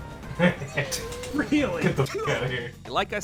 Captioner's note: laughing